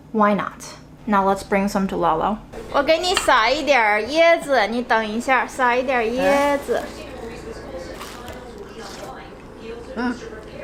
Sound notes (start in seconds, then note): 2.8 speaking Chinese